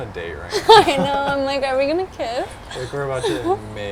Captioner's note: laughing